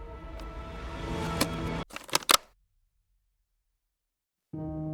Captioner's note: laptop clatters; gentle music